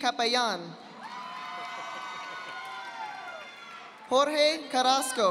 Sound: audience applauding

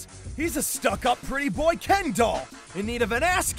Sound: none

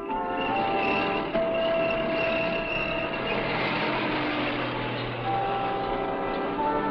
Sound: motor rumbling

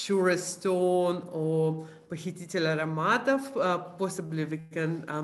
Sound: non-english speech

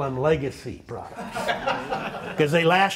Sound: laughter

